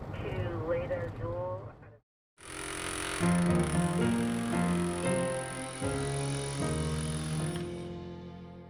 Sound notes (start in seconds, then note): 0.2 radio chattering; 2.9 tool rattling; 3.4 gentle ambient music